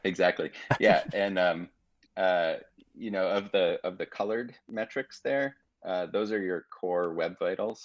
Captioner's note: chuckling